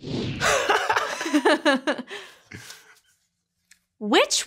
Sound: both laugh

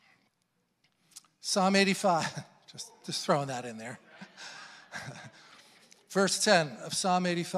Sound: laughs

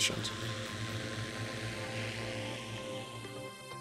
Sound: drone buzzing

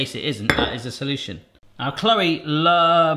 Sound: bowl clanking

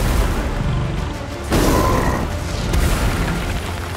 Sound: growls

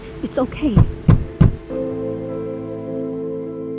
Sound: man banging

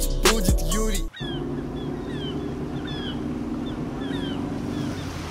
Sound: engine sounds and seagull cries

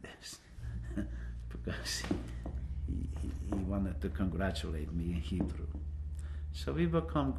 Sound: laughs

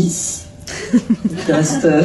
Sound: laughs

